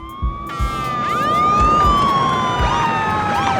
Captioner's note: distant gunfire; sirens wailing